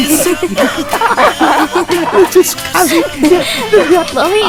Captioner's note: laugh